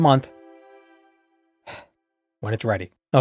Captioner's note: impatient sigh